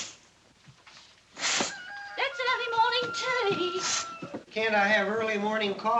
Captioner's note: rooster Crows